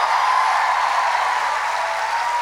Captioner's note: applause